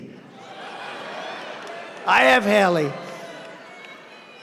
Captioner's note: laughter